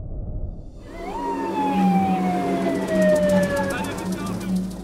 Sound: siren wailing

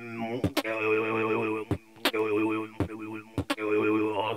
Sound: beat boxing

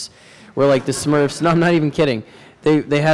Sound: laughter

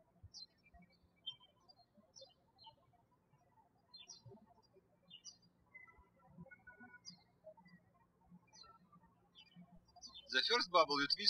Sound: birds chirping

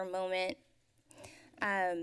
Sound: exhales

